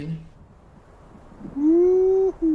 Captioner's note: wind howling